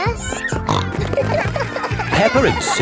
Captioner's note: snorting